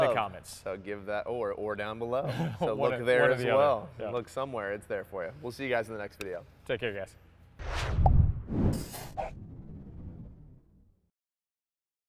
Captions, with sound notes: - In the comments. - So give that or down below. (chuckles) Both there as well. Looks somewhere, it's there for you. We'll see you guys in the next video. - Take care guys. (air swooshes)